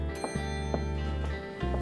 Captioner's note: elevator dinging